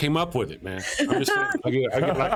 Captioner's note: laughing